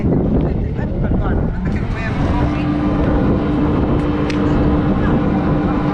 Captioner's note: noise and wind